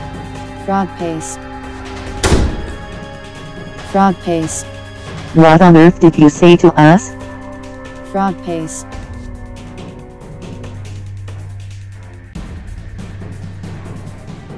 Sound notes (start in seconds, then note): 2.0 door slams open